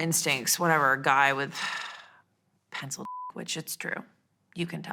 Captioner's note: beep